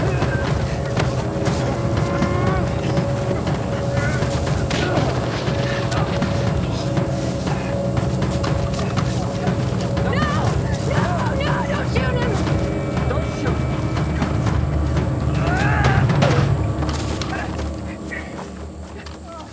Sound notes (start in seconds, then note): 15.3 yells